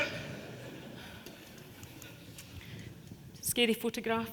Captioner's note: audience laughing